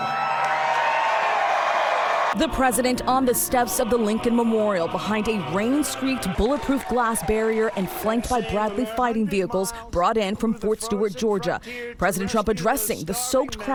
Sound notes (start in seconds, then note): 2.1 chanting "usa"